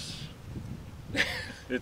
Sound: laughs

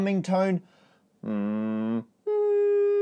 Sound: humming; higher-pitched Humming

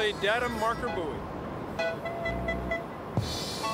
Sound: beeping

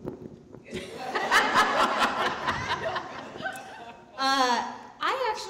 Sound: audience laughing

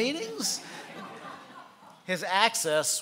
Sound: laughing

